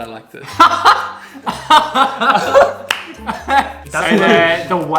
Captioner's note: chuckles; laughs